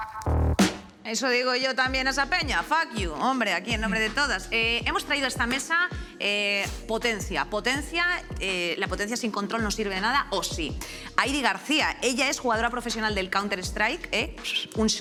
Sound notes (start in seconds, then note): none